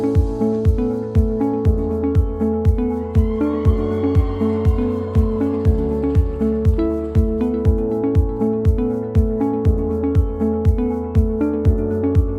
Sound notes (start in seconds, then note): 3.3 audience cheering and applauding; 6.4 bright music